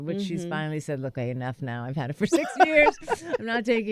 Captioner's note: laughter